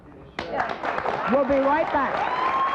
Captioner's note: audience applauds